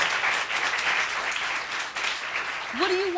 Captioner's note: audience applauding